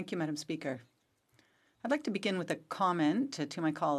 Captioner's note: speaking French